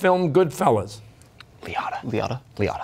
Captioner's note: whispering